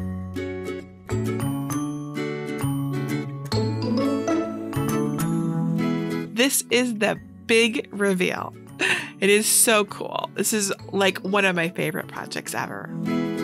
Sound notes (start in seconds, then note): 8.8 chuckling